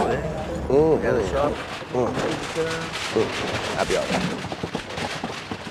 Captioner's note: indistinct chatter